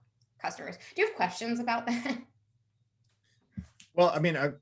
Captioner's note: chuckles